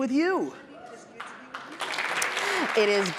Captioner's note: applause